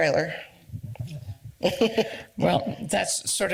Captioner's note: laughs